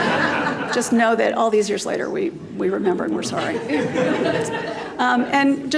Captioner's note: laughter; laughter